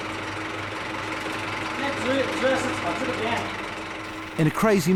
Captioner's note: Chinese spoken audio